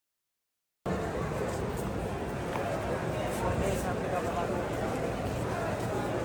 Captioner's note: people chattering indistinctly